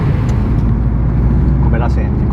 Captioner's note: engine Growl